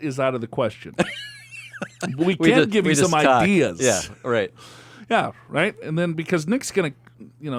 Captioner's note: laughs